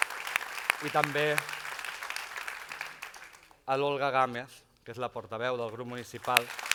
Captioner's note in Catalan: aplaudiments